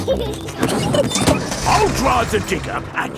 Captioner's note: peppa and george laughing